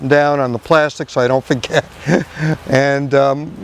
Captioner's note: laughs